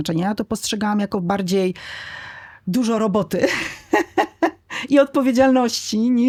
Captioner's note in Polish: śmiech